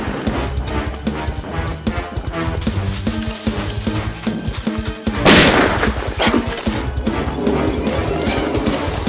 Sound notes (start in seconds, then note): 0.1 suspense music; 5.2 gun firing